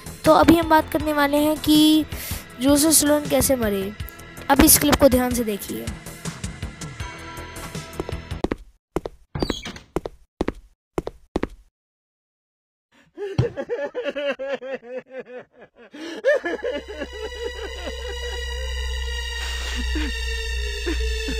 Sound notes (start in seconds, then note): 10.4 footsteps; 13.4 crying Child